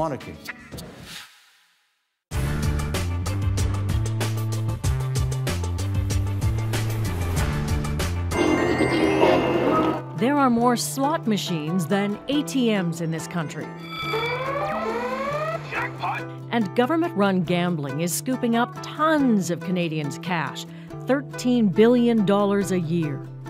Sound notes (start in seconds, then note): 15.4 machine blares